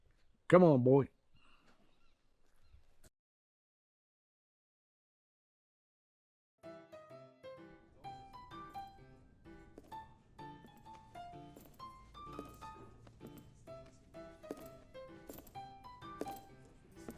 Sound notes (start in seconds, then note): 6.6 upbeat swing music; 6.6 footsteps click slowly